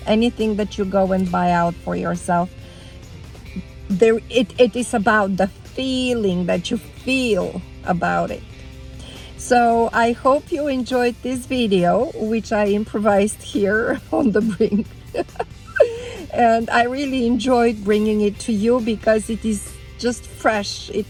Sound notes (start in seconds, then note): 2.6 upbeat music; 13.6 laughing